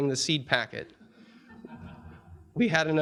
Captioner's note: audience chuckling